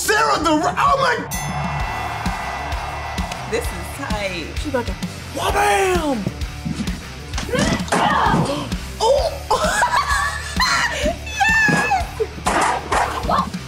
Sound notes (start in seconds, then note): 0.0 exclaims; 1.2 bell dings; 7.5 grunts; 8.3 chair smack; 8.9 laughs; 9.4 exclamation